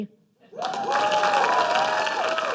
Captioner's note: cheers and applause